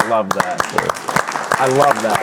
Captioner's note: audience applauding; clapping